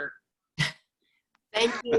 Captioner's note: laughs